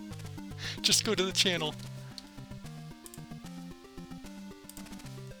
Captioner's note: laughs